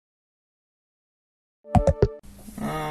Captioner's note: low battery sound